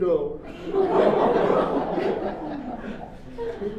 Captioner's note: audience laughs